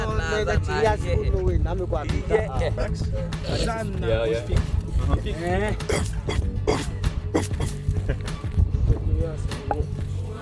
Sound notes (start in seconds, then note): 5.9 growling